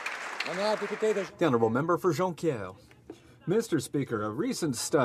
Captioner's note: some Applause